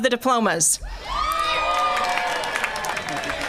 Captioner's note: applause